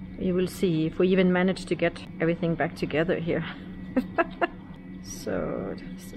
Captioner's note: laughing